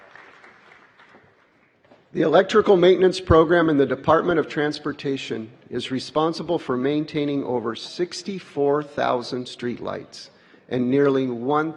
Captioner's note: applause